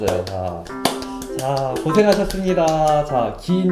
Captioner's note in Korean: 회오리 박수